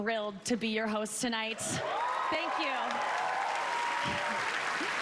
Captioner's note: laughter